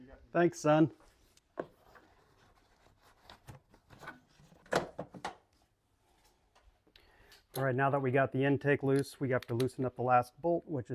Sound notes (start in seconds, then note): 4.1 parts clicking